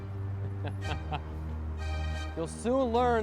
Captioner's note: laughing